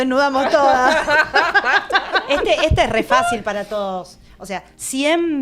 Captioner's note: laughs